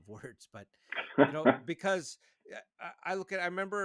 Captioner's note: chuckles